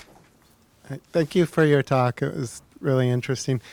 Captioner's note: deep Voice